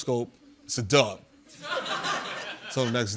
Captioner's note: laughter